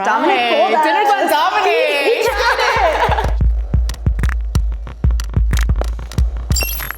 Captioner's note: laughs; upbeat electronic music